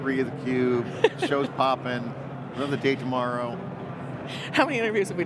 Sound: laughing loudly

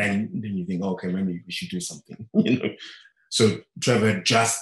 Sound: chuckling

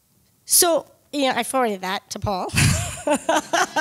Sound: laughs

